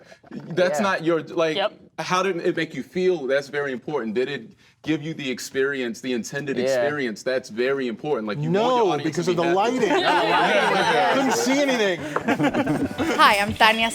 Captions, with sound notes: That's not your like, how did it make you feel? That's very important. Did it give you the experience, - Yeah. - the intended experience, that's very important, like- - No, because the lighting. (laughing) Couldn't see anything. (laughing)